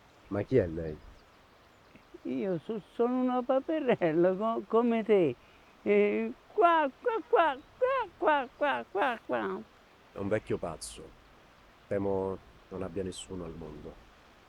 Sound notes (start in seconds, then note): 8.6 duck quacking